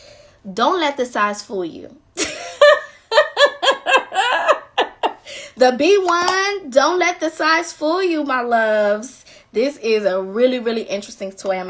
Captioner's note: laughing